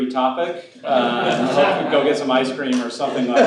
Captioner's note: laughing